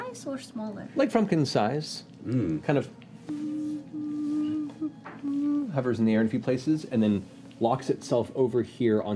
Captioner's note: humming